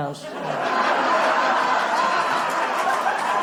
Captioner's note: applause